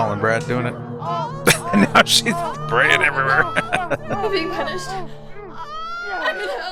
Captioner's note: laughing